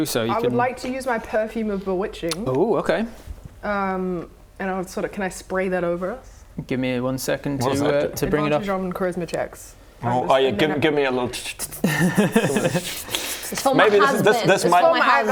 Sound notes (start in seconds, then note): 11.1 tschtschtsts; 11.3 tststststschchchtsts